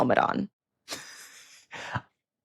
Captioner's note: chuckles